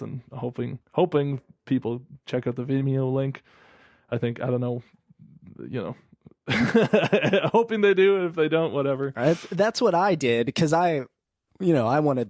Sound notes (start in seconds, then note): 6.5 laughs